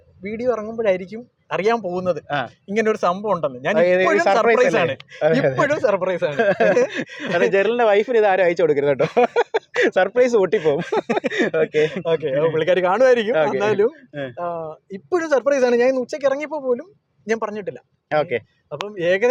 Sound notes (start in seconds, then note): 10.3 laughing